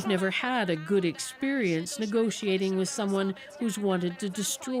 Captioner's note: speaking alternate language